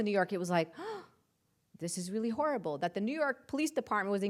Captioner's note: gasps